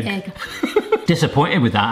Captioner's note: laughing